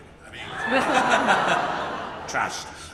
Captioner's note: audience laughs